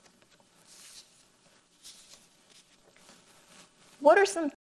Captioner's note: paper rustles